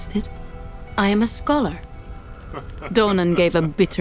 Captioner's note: Donan laughs